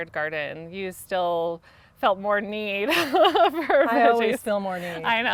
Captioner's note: laughing